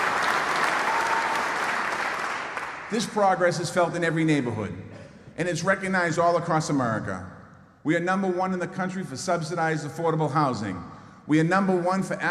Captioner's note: applause